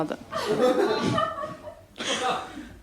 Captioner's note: laughter